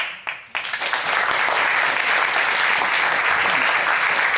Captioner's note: crowd applauding